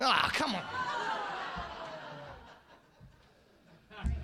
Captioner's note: audience laughing